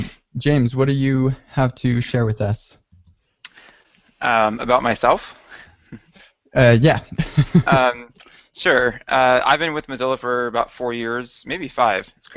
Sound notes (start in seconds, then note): 6.9 chuckles